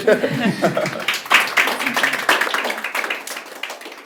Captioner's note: applause